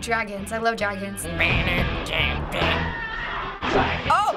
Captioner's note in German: ahmt Gitarren-Akkorde nach; Heavy-Metal-Musik